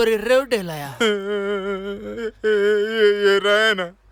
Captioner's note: crying